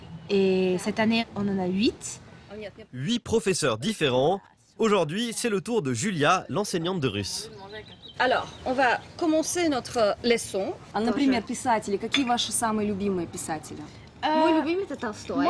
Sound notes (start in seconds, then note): 10.2 speaks in Russian